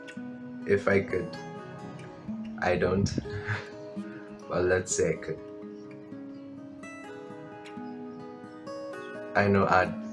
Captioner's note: laugh